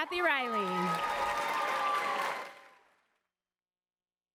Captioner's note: applause